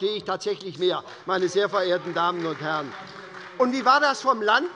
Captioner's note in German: Beifall bei Abgeordneten der SPD